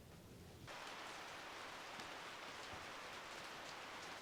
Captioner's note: rain splashes